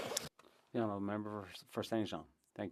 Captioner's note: speaking French